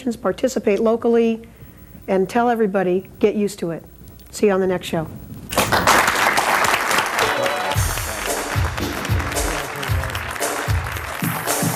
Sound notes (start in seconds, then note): 5.5 audience applauds; 7.1 upbeat music